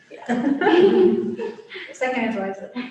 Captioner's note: laughter